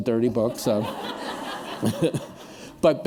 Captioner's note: laughter